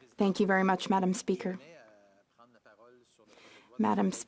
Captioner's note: speaking French